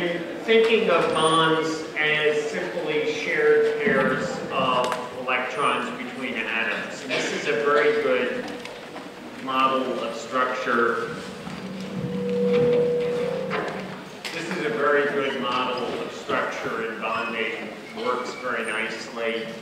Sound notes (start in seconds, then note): 10.8 audio feedback